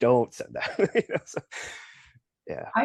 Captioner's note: laughs